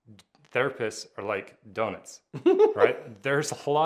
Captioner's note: laughing